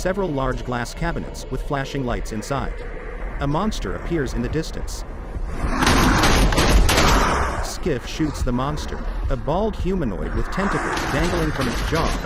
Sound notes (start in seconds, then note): 5.7 creature roars